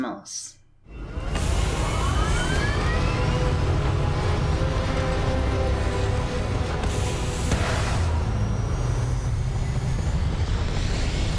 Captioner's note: ship Launching Noises